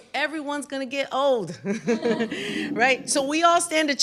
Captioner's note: laughter